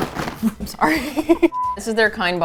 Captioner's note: laughing